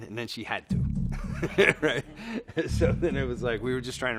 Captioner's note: laughs